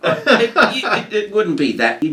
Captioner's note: presenter laughing